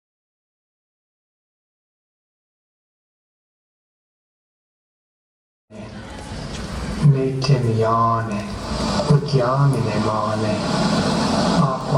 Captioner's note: male voice speaking in Indigenous Myaamia language